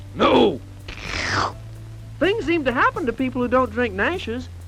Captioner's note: sinister slurp